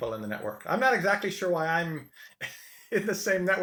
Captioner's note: chuckles